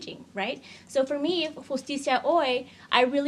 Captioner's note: speaks in foreign language